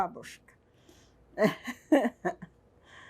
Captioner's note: laughing